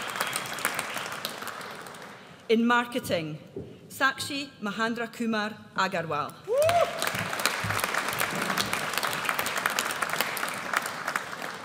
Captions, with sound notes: In Marketing. Sakshi Mahendrakumar Aggarwal. (AUDIENCE APPLAUDS)